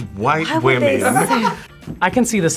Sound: React laughs

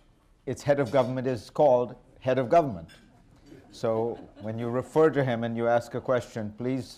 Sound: laughter

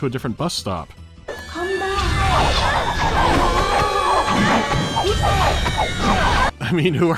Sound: incessant meowing

